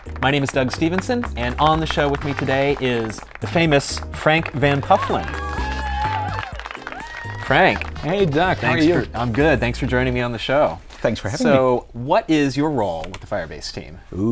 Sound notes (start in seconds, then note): 4.8 cheers